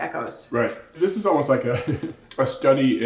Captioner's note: chuckles